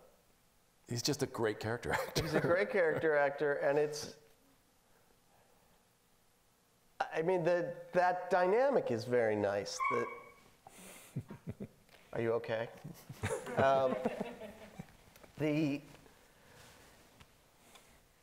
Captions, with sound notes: He's just a great character actor. - She's a great character actor. And it's, I mean the, that dynamic is very nice- (loud yelp from audience) Are you okay? (laughing)